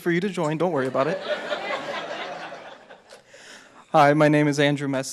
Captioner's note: audience laughs